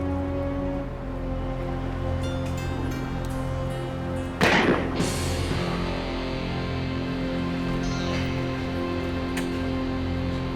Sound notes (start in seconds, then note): 4.4 gun firing; 7.6 dramatic music